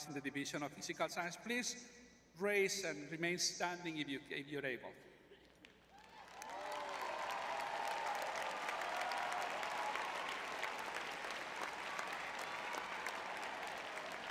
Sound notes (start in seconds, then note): 5.9 crowd cheering